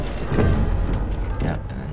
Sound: plates shattering

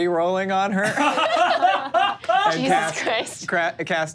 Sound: laughs

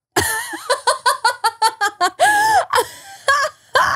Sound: laughing

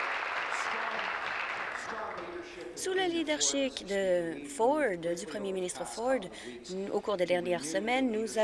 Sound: applause

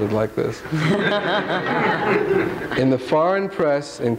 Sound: all laughing

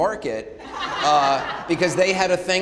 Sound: audience laughing

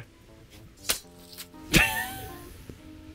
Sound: machete slices; laughs

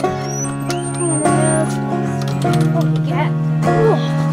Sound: gate opening

